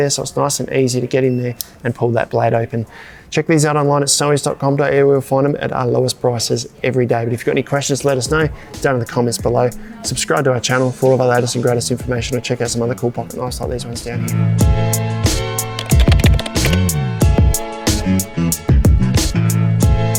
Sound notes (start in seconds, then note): 15.6 keystrokes tapping; 17.5 upbeat music